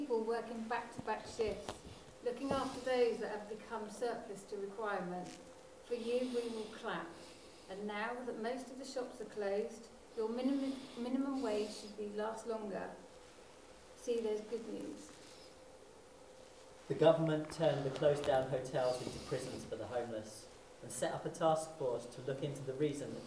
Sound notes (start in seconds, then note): 17.0 male Voice